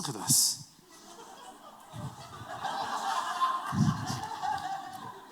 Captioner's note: laughter